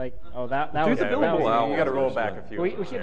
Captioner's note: overlapping chatter